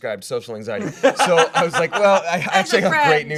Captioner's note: laughing